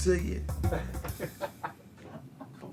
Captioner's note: laughs